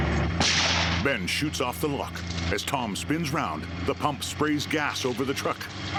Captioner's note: shotgun blast